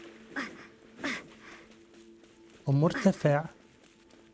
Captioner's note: grunting; gentle music